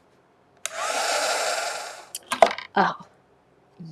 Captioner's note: heat gun humming